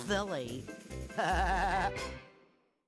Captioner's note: laughing